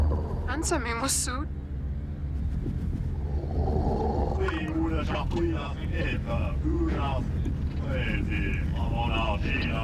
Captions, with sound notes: Answer me, Mossoud. ( speaking alien language )